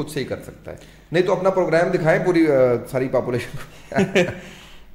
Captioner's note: laughter